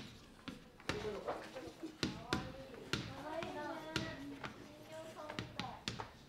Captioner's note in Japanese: ざわざわざわ